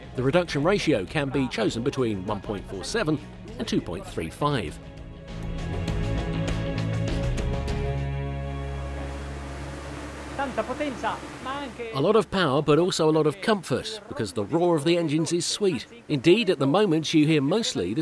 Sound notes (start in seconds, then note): 5.6 electronic music; 9.4 engine hum